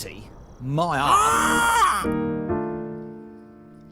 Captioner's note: parrot squawks